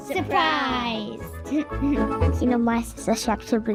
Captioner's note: laughter